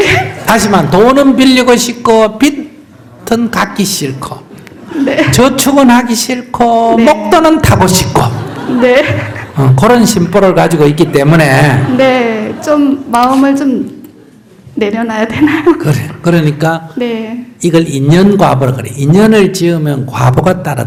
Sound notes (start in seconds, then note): 0.0 questioner / Audience Laughter; 4.7 questioner Laughter; 8.0 audience Laughter